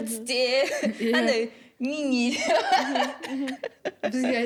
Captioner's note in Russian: смех